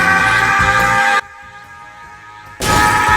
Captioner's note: scream; scream